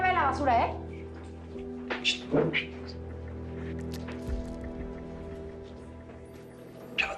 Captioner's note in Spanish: Susurros